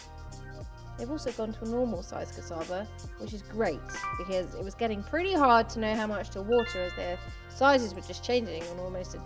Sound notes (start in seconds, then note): 3.8 notification sound; 6.6 notification sound